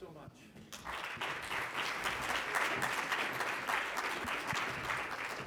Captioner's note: congregation clapping